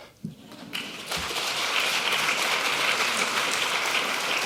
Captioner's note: audience applauding